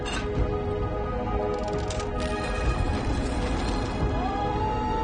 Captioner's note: scraping